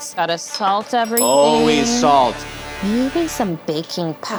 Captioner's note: bell sings